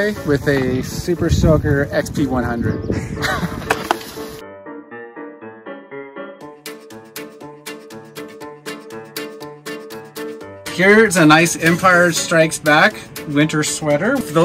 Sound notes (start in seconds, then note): 3.0 laugh